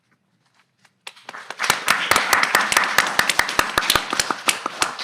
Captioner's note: audience clapping